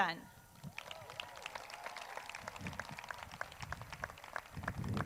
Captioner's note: crowd cheers